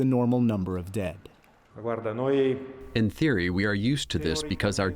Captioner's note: through translator